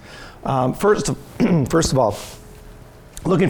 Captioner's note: clears throat